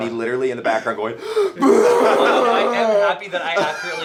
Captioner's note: sobbing